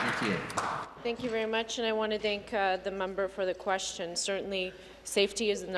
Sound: applause

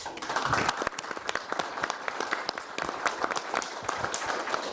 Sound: attendees applauding

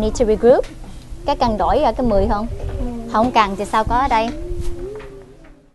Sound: foreign language

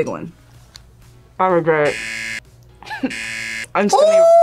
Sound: buzzer; laughs

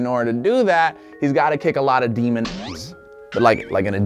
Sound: boinging

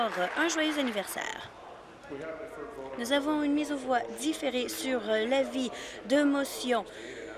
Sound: applause

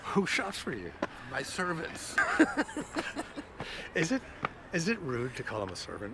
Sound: laughs

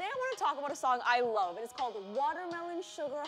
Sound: none

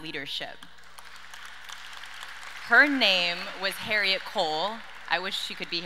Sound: audience applauds

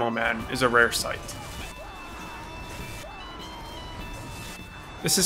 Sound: demoknight screaming

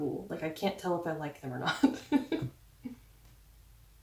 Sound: laugh

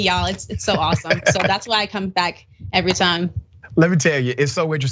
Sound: laugh

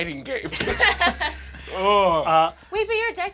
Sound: laughing

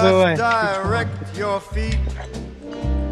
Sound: curse in Albanian

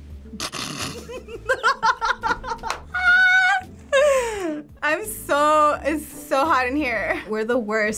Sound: snickers; laughs

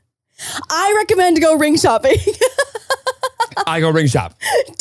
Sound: laughing

